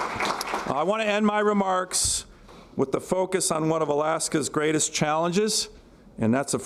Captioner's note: applause